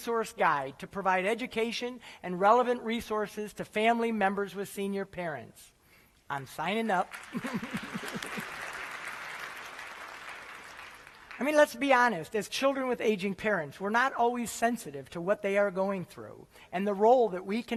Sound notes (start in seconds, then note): 7.0 applause